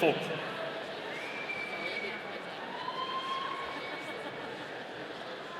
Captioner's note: audience cheering